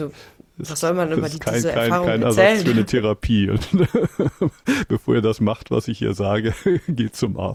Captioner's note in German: gelächter